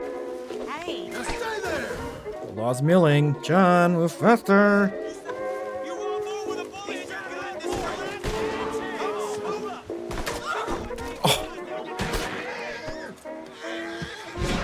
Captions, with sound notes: Laws milling, John move faster! [Scoffs]